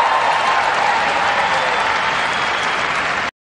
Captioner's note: cheers, applause